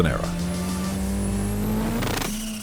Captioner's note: engine roars